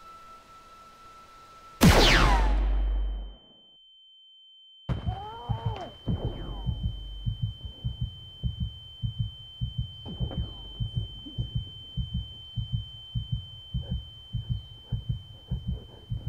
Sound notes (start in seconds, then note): 1.8 blaster fire; 4.8 muffled noises, heartbeat, ringing